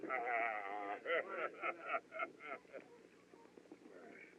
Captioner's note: chuckles